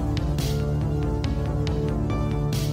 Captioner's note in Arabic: none